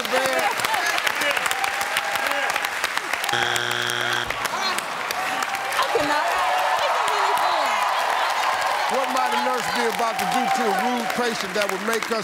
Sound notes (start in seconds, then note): 4.6 audience groans; 6.7 cheering and applause